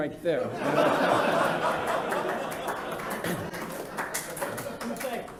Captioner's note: laughter